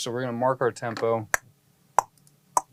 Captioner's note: tapping sound